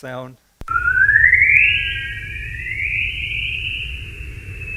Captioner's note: whistling